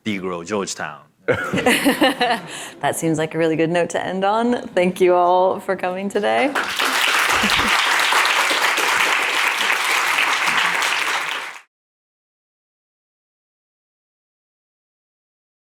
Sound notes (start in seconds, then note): 1.4 audience laughs; 6.5 audience applauds; 12.0 no audio present